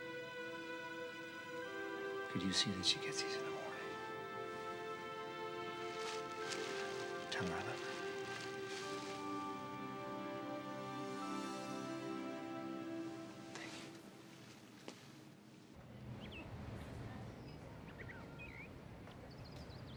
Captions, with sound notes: Could you see that she gets these in the morning? Tell her I love her. Thank you. (birds chirping)